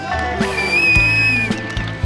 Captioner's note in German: Pfiffe